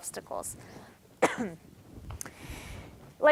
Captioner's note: coughing